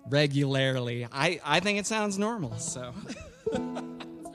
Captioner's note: laughs